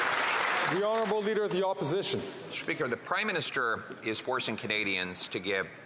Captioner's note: some Applause